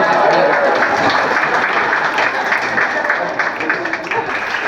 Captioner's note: applause